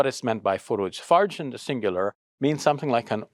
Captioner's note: speaks Arabic